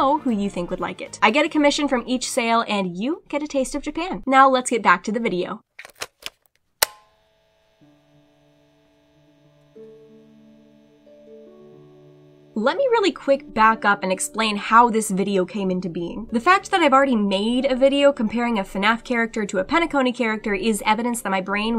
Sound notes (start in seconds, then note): 6.8 tape being put in player. Soft motor running